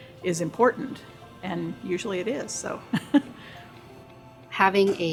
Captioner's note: laughs